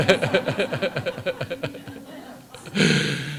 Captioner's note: laughter